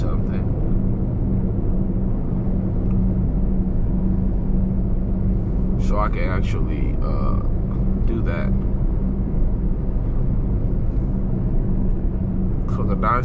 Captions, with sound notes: Yeah, so I will figure out something. (car engine roaring) So I can actually do that.